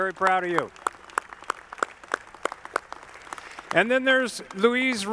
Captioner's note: audience clapping